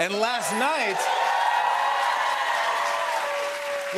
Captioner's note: cheers and applause